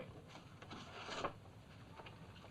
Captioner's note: paper rustling